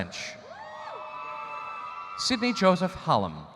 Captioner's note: audience cheering